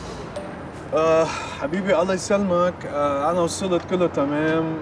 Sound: speaking in Arabic

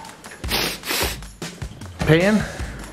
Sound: sniffing

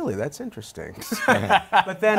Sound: laughter

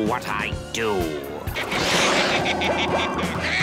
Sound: laughing

